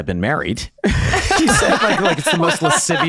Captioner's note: all laughing